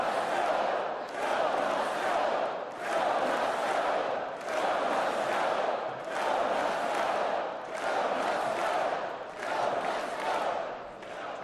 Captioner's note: chanting "joe must go"